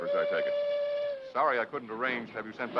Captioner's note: horn blowing